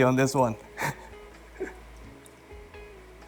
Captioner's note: chuckles